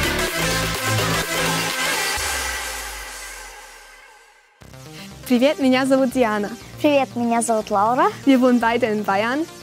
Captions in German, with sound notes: (russisch:) Wir wohnen beide in Bayern.